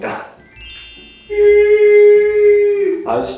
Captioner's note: wild cheering